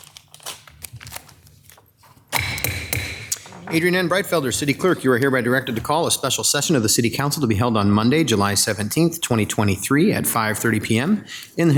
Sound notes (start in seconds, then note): 2.3 gavel bangs